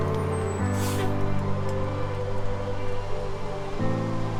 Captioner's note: brakes squealing